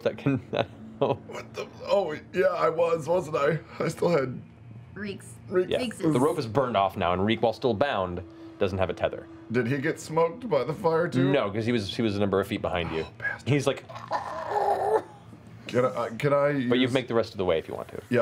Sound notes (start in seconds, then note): 13.9 gasping